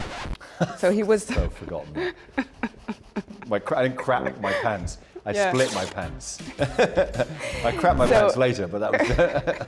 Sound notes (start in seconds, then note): 0.3 laughing; 3.8 laughing